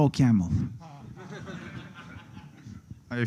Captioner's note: laughter